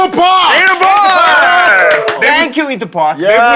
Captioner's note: everyone cheering